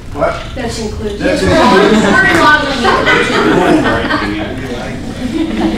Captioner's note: laughter